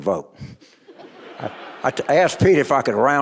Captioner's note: audience laughing